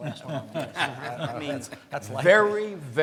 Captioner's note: laughs